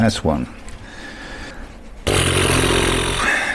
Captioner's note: blowing